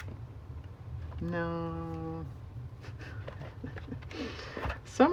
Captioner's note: laughs